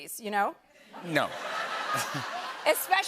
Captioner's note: laughter